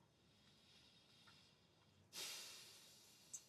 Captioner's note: sighs